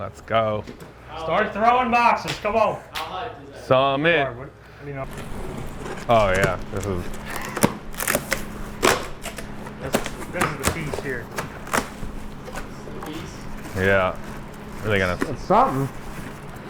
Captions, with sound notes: - Let's go. - How much is that? - Some in. - Oh yeah. (cardboard rustling) - This is the piece here. - This is the piece? - Yeah. Were they gonna? - It's something.